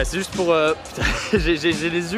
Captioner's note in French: Rire